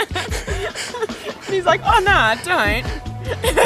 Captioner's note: both laughing